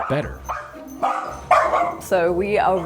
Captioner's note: puppy barking